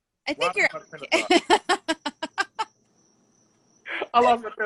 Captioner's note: laughter